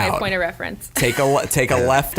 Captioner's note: chuckles